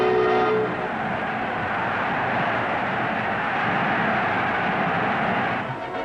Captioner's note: crowd roaring and yelling